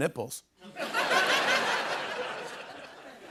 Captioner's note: laughter